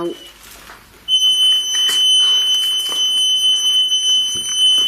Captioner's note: beeping